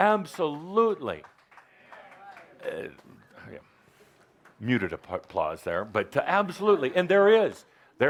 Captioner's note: some applause